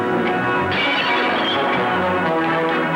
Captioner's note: glass breaking